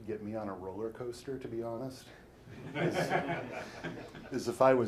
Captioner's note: audience laughing